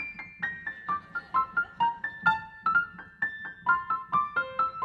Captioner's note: audience laughing